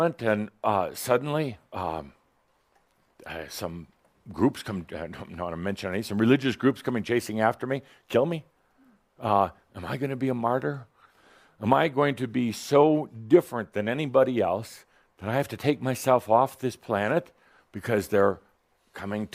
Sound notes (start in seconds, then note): none